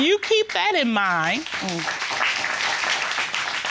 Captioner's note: audience applauding